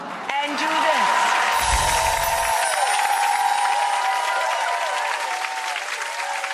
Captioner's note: audience applauds